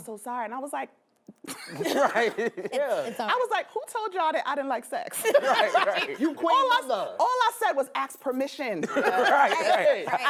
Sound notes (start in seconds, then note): 1.6 laughs; 5.2 all laugh; 8.9 all laugh